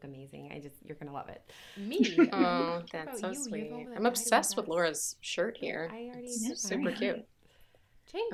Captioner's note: laughter